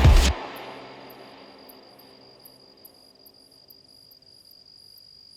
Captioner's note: crickets chirping